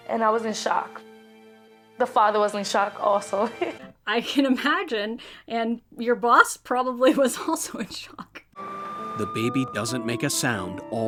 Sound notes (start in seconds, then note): 3.4 laughs